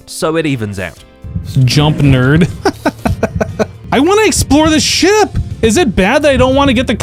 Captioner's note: laughs